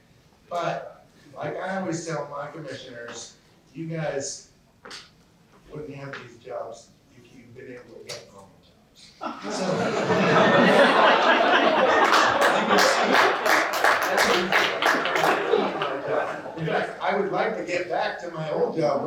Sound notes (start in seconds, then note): 9.1 laughter; 11.8 applause